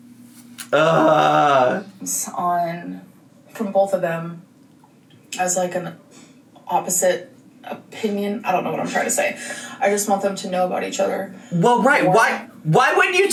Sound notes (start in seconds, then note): 0.7 groans